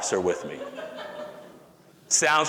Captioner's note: audience laughter